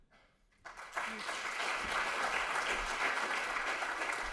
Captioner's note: audience clapping